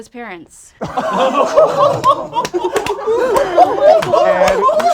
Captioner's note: group laughs